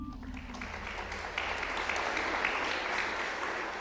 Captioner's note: applause